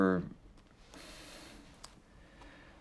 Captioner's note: sighs